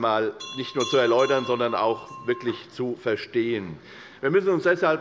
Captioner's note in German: Unruhe - Glockenzeichen des Präsidenten